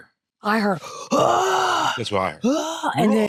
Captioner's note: growls